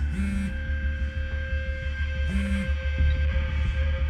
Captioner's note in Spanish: Suena el celular